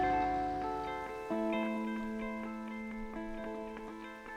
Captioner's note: leaves rustling